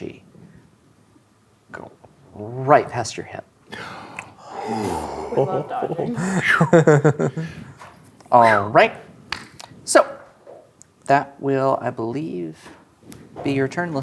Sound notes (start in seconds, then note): 3.8 gasps; 4.5 laughing